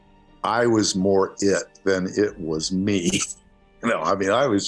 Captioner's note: laughs